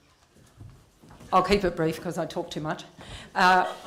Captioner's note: laughter